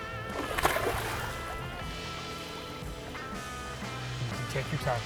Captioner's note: water splashes